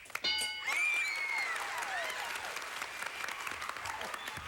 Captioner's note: audience applauding